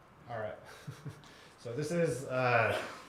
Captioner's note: laugh